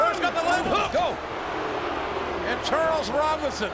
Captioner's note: crowd booing